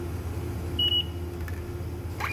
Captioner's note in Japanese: 交通系icカードの決済音